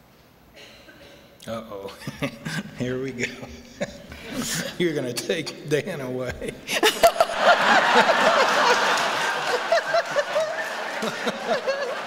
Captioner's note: laughter